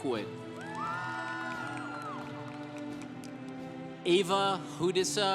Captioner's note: congregation applauding